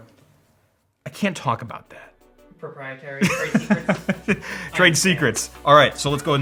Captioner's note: laughs